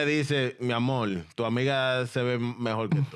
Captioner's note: speaking In Foreign Language